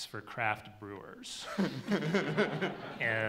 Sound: laughs

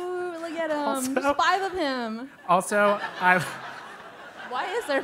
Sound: laugh

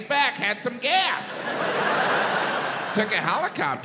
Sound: audience laughs

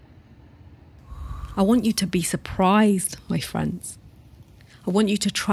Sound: blows

